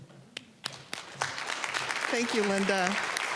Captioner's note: applause